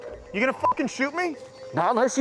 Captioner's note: beep